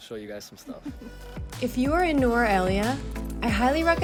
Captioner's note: chuckles